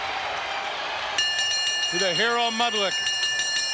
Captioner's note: bell chimes